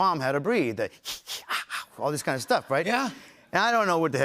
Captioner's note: breathing rhythmically